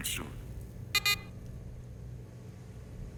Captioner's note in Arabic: صفير